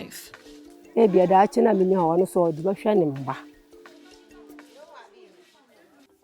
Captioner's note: speaking foreign language